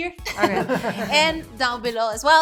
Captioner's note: laughing